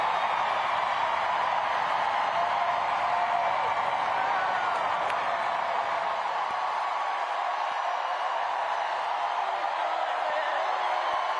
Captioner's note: cheers and applause